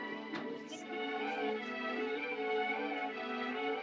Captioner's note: chattering Quietly